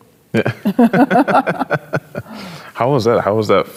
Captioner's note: both chuckles